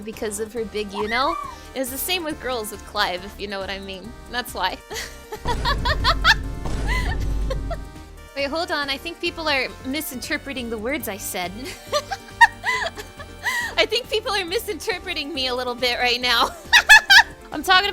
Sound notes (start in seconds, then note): 6.8 laughing; 11.6 laughing; 17.3 laughing